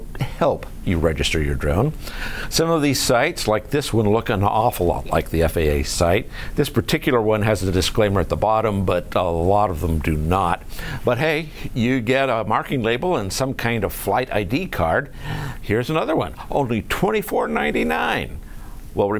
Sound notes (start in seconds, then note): none